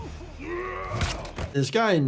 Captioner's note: attacker yelling; body thudding